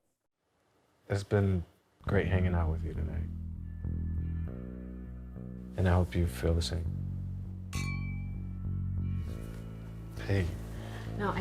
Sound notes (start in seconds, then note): 7.7 glass clinking